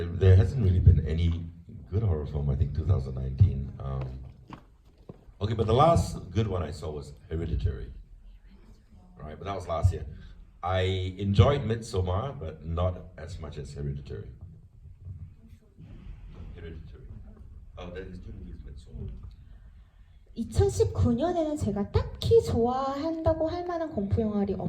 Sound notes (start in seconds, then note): 0.0 speaks in foreign language; 18.0 faint unmiced chatter; 20.7 speaks in foreign language